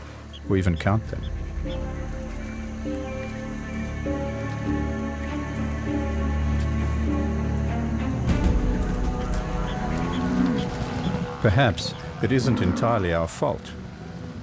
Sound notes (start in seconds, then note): 3.4 animals calling; 9.1 mooing